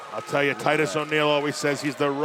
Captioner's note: cheers & boos